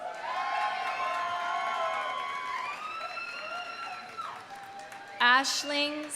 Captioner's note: audience cheering; audience applauding